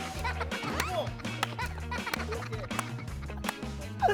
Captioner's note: about to cry